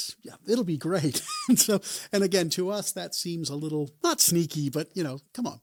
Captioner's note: laughs